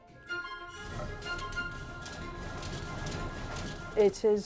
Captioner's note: machine clattering